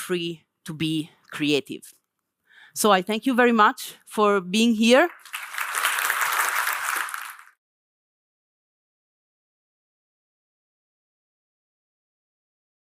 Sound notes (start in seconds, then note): 5.0 audience applauding